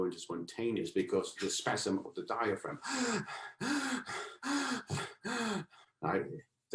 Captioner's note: heavy panting